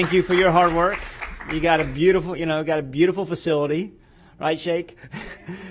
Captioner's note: applause